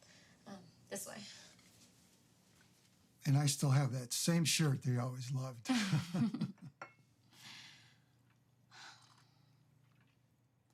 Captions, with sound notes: - Um, this way. - And I still have that same shirt that he always loved. (both chuckling)